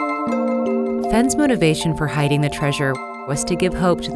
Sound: voiceover

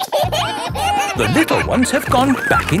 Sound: kids giggling

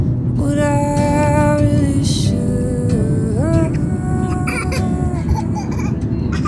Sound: laughing

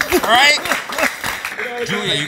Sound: cheering

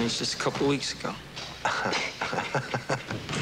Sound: laughing

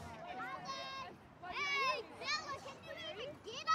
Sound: children shouting

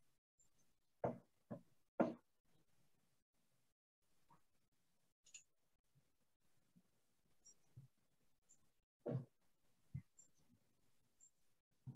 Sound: silence – Smudge in progress

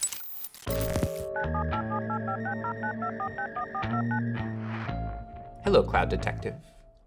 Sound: dialing

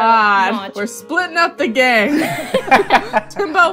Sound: laughter

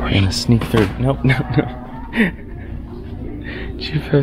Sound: laughs

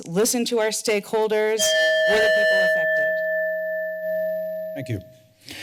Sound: ding

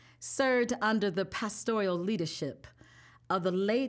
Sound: none

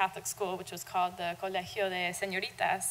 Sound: speaking Spanish

